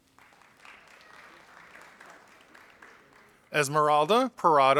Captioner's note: audience applauding